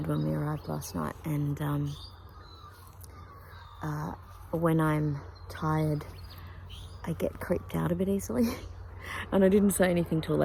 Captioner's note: scoffs quietly